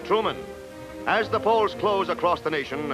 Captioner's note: none